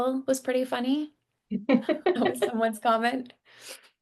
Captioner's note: laughing